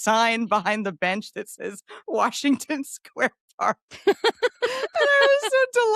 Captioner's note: laughs